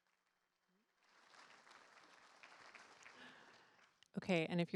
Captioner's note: applause